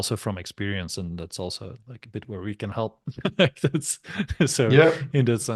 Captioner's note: chuckles